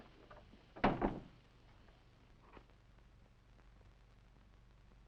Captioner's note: door thudding